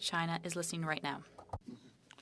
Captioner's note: speaking French